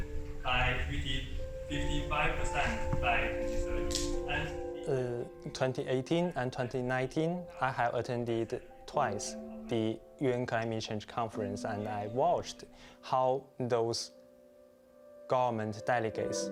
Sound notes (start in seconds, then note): 4.7 speaking Chinese